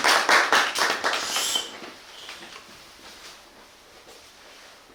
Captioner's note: applause and cheers; whistling - Whistle sound